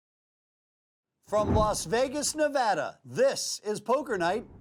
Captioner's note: voiceover